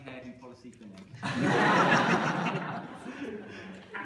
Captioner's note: laughter